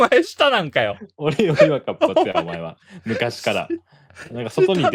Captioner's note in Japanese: 笑い